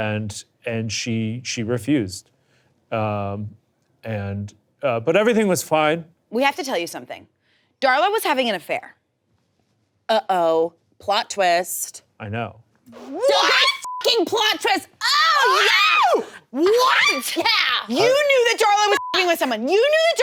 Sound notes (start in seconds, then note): 13.8 beep; 15.0 person screaming; 18.8 beep